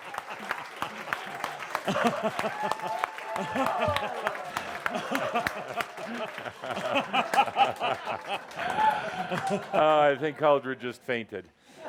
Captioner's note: laughter and audience applause